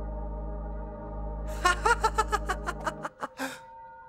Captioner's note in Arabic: يضحك